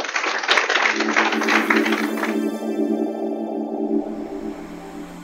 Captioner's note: applause; electronic swooshing